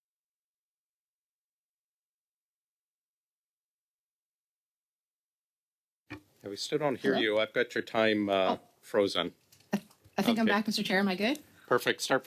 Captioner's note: silence